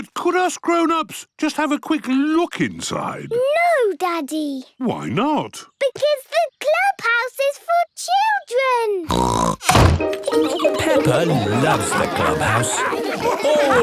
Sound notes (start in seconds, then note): 9.1 snorts